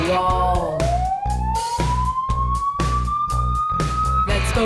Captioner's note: siren blaring